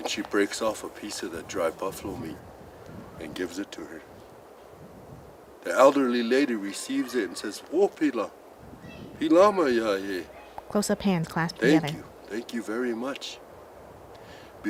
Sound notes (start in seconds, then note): 7.4 speaks Lakota